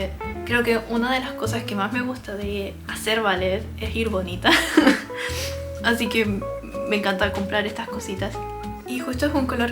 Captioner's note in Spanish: risas